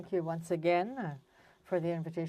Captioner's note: speaking french